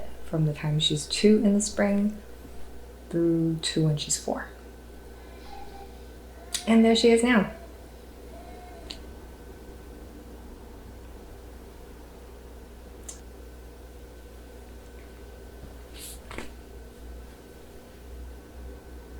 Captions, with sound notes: from the time she's two in the spring through to when she's four... *sound of baby crying* And there she is now!